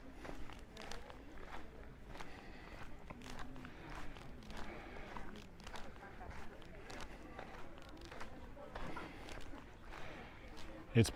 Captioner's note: background chatter